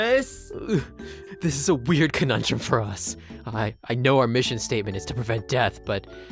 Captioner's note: gags